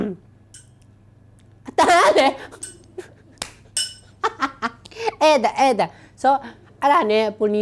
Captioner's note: clink